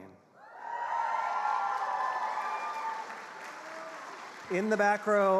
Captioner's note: attendees cheering and applauding